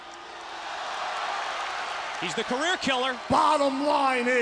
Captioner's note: crowd cheering